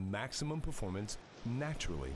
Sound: ocean Waves Crashing

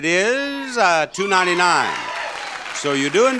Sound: audience cheering

